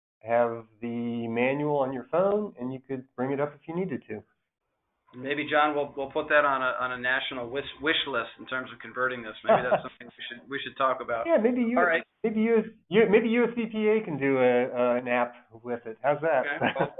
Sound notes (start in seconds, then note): 9.4 laughs